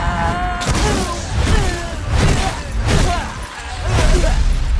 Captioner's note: groaning, thudding